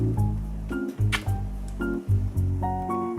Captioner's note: mwah